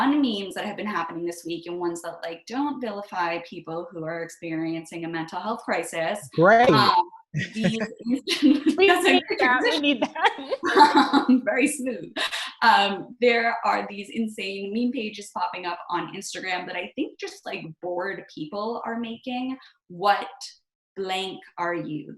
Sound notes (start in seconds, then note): 7.3 chuckles; 10.0 laughs